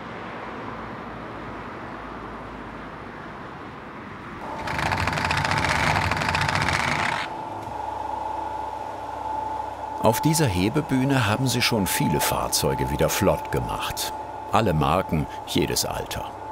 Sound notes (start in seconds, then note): 4.4 loud rattling; 7.7 whirring